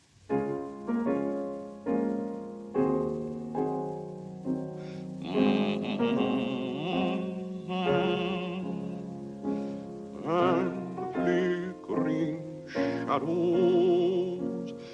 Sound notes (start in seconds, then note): 0.1 piano music; 5.2 humming